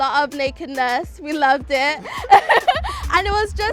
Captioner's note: laughs